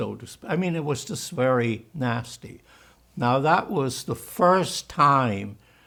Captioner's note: german; german